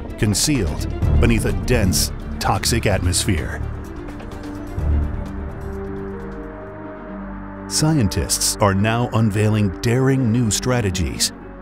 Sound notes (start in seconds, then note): 4.6 soft dramatic music; 4.6 wind whooshing